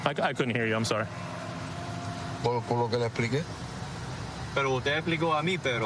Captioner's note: speaking spanish